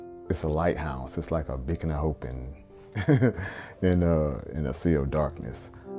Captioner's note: chuckles; soft music